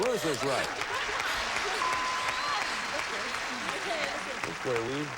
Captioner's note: audience applauding